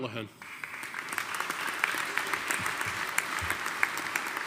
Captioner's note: audience applauding